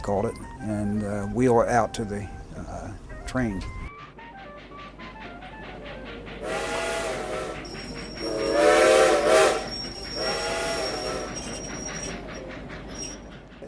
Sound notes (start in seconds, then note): 2.5 faint jazz music; 3.5 train chugging; 6.4 whistle blowing; 8.0 music fades out